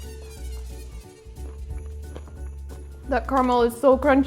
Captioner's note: light music continues; toffee continues crunching